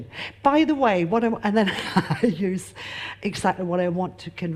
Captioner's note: laughs